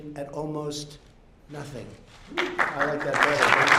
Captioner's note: applause